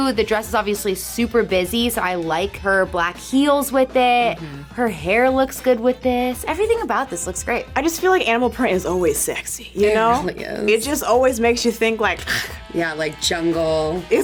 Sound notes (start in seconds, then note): 12.3 purring